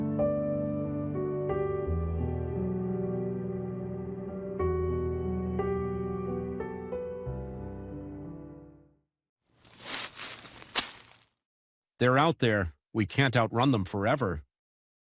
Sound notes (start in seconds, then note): 1.1 gentle music continues; 9.6 leaves rustling